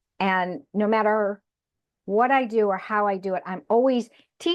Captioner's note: none